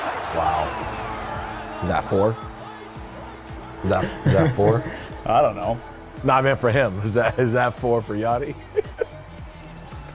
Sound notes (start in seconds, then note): 0.0 crowd cheering; 4.0 laughs; 8.6 laughs